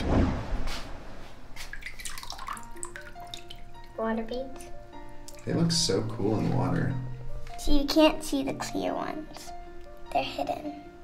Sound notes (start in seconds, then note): 1.5 water drips; 2.1 light classical music